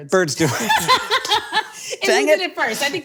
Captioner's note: both laughing